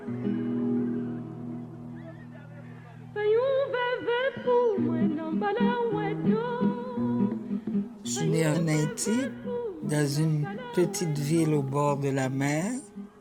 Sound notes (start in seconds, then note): 7.9 woman speaking French